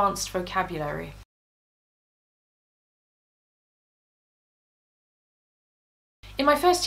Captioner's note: silence